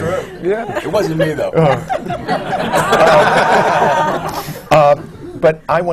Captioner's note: laughter